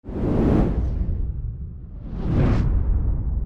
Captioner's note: air swooshing